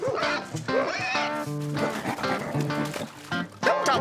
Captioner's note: hog snorting